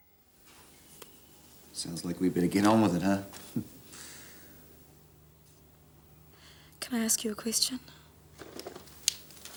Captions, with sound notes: - Sounds like we'd better get on with it, huh? (chuckles) - Can I ask you a question?